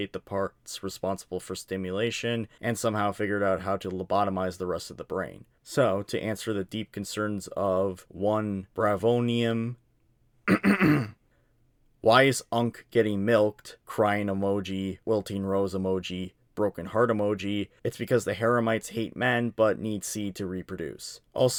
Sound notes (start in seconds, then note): 10.4 clears throat